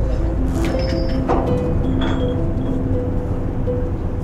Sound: metal cable dragging

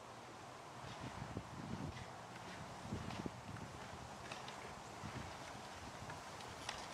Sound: costumes clacking; wind whooshing

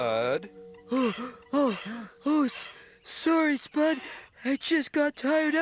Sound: panting

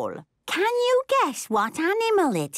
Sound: none

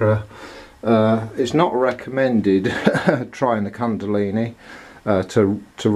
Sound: laughter

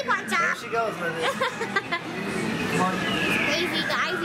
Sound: laughing

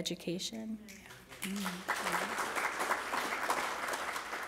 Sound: applause

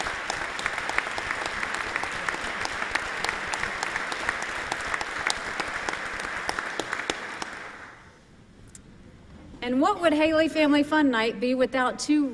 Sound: applause

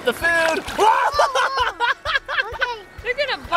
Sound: shouting

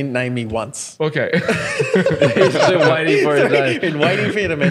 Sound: laughing

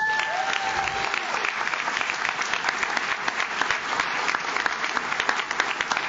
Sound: audience cheers; audience claps

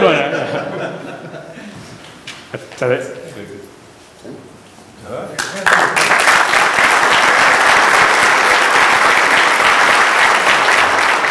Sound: applause

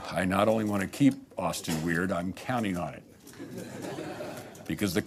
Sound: laughter

